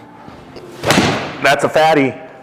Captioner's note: club thuds